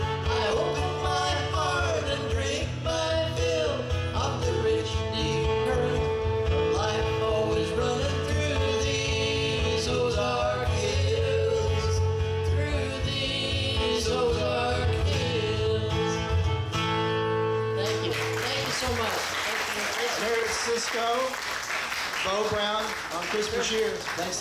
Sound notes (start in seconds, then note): 17.8 audience clapping